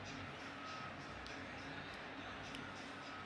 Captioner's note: whistle